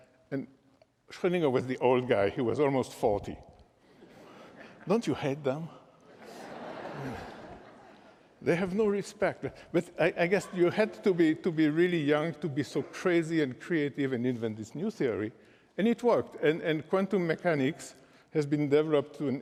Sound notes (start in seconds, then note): 6.1 laughter